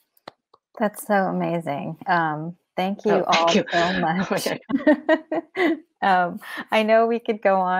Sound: laughs

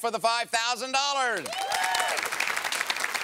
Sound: applause

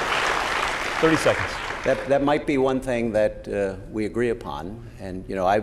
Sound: applause

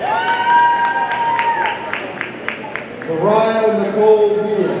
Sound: audience cheering and applauding

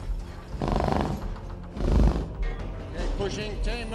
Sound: growling

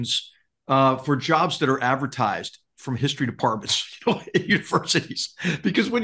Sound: laugh

